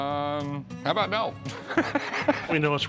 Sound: laughs

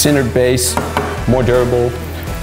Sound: knocking sound

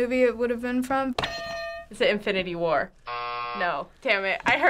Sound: buzzer

